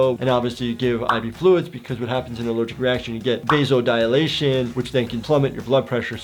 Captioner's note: none